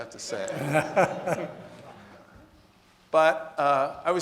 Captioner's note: audience laughing